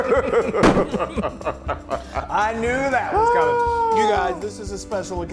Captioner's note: laugh